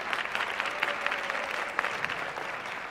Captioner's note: applause